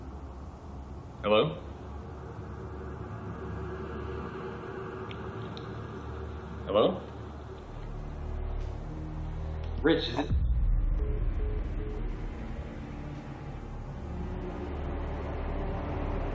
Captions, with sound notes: Hello? (ominous music) Hello? Rich, is this? (hang up dial tone beeps) (ominous music)